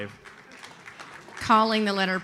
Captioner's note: audience applauds